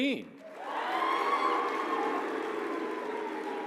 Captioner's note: applause